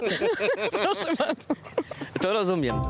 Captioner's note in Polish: śmiech